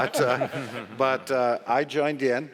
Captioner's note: audience laughing